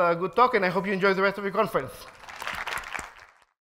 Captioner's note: applause